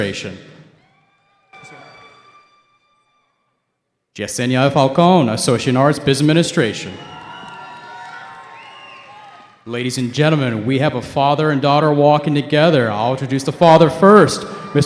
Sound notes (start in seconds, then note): 0.7 cheering; 7.4 cheering